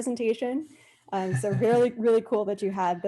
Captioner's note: laughs